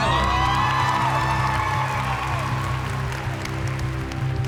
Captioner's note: cheering and applause